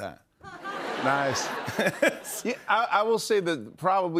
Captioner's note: laughter